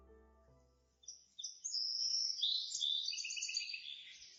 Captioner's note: birds tweeting